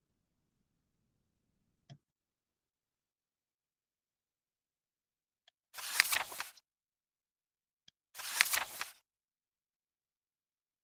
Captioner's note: E-book turning pages